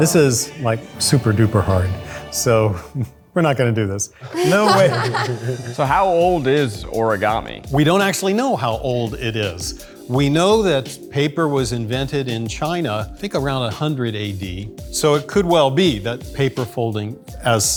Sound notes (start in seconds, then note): 4.2 group laughs